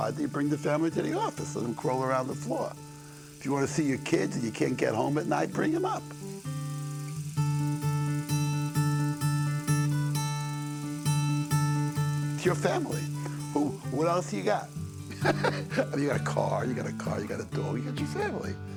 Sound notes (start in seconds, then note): 15.0 bakshi laughs